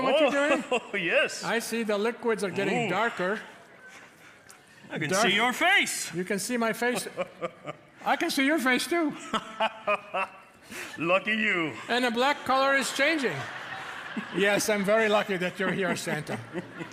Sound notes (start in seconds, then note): 9.2 Santa laughs cheerily